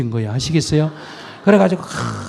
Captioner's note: audience Laughter